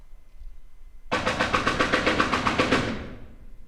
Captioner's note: banging on door